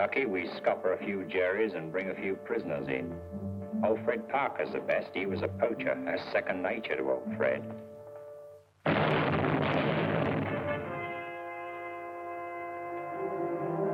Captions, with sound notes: we scupper a few Jerries and bring a few prisoners in. Old Fred Parker's the best. He was a poacher. It was second nature to old Fred. [artillery firing] [pensive music]